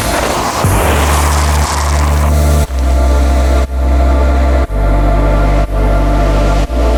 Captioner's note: bike tires scrunching; bike gears ratcheting